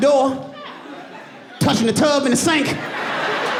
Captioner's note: audience laughing